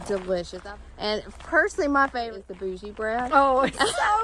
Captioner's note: laughs